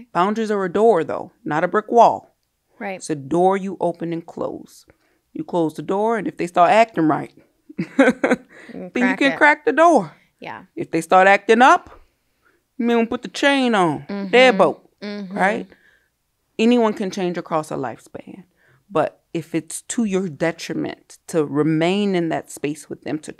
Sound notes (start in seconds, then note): 7.8 laughs